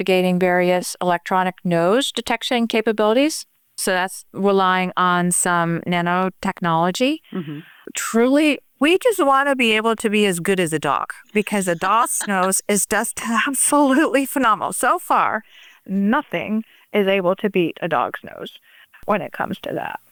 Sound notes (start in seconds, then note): 11.3 laughter